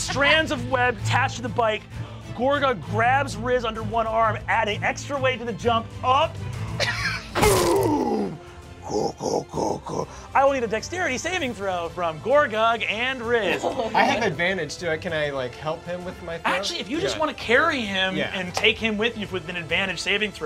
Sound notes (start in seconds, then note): 8.8 growls